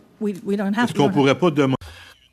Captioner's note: speaking French